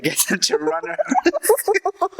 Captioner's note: laughs